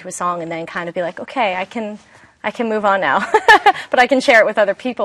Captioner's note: laughs